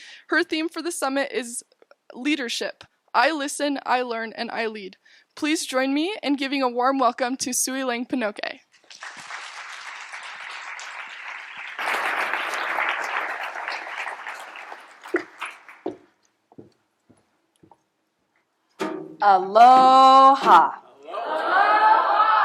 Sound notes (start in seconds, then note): 8.7 applause